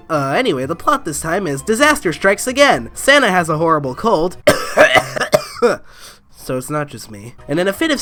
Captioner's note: coughing